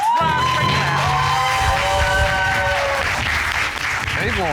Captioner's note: audience cheering